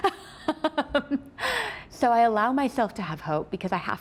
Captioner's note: laughing